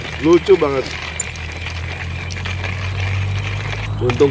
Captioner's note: sound of coffee grinding